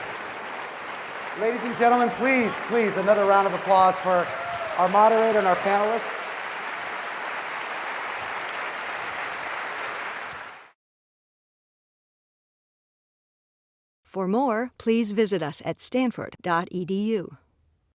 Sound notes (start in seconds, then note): 0.0 laugh; 6.1 applause